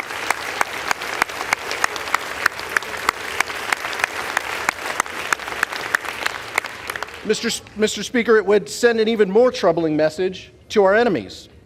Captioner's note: applause